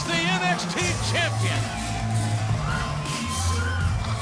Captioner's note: crowd cheering